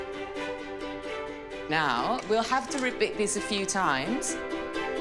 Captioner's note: spoon whisking